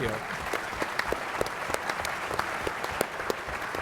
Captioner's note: applause